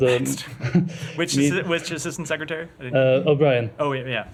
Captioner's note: laughter